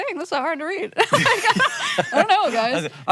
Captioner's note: both laugh